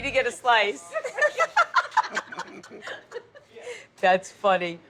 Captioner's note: people laughing